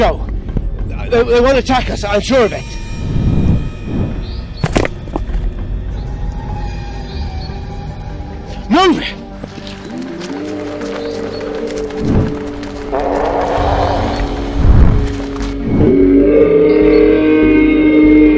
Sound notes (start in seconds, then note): 10.6 howling all around; 15.7 loud roar